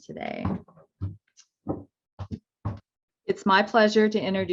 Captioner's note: footsteps thumping